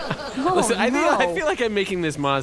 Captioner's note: sobbing